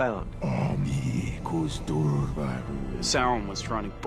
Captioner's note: sauron speaking in black speech